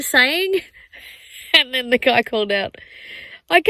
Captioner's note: starts laughing